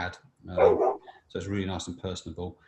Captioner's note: dog barks